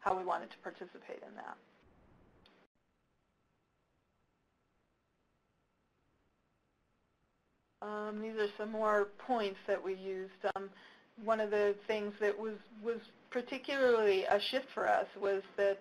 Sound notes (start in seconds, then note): 3.2 pause